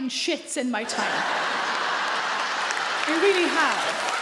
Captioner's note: audience laugh loudly; audience clap